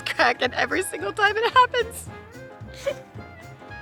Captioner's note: laughs